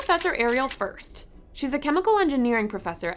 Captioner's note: camera snaps